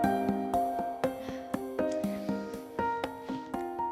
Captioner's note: sighs